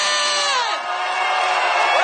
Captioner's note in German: Jubel